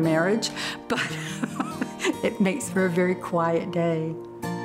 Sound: laughing

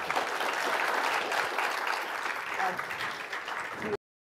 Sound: applause

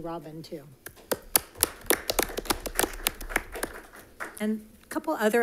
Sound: crowd applauding

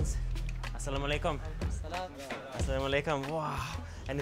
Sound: greetings in Arabic

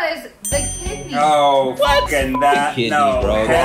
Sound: beep

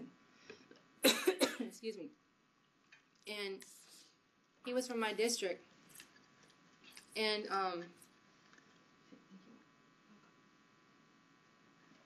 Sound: coughing

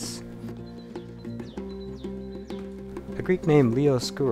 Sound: birds chirping; chill music

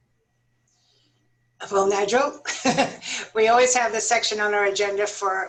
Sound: laughter

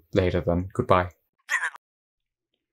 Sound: mumbles with a Highpass filter on

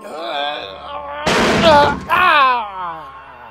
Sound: crash Sound

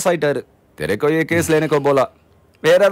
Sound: speaks Hindi

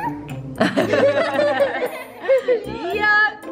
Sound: everyone laughs

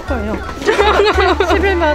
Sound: group laugh

